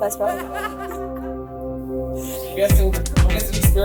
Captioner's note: laughter